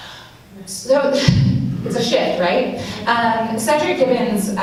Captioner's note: laughs